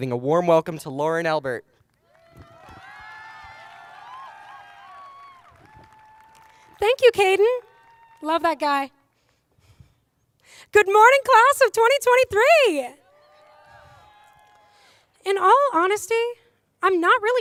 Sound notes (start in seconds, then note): 13.4 applause